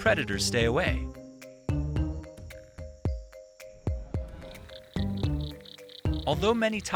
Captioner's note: light music; animal croaking